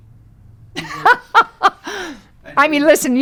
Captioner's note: Lily laughing